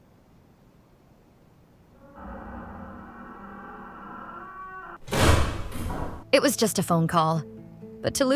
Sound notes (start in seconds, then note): 5.0 door slams shut